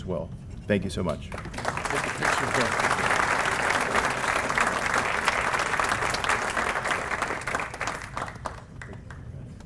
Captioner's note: applause